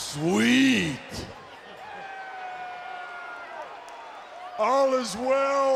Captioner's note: applause